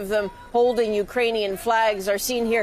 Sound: speaking Foreign Language

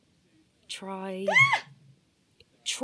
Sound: lola squeals

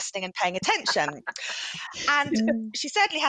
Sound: chuckles

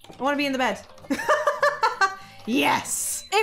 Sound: laughs

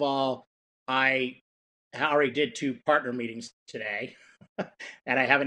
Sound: laughs

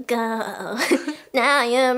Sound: giggles

